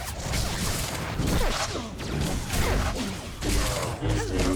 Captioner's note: gunshots